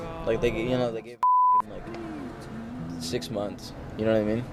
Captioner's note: beep